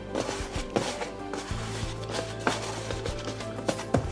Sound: fingers scratching

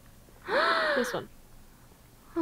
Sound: gasp

